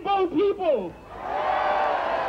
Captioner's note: cheering and applause